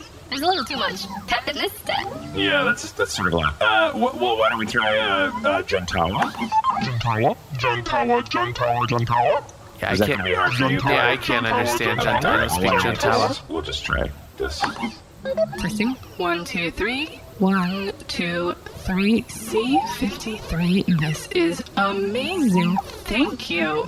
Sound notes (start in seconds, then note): 0.0 southern; 4.5 dial beeps; 15.8 dial beeps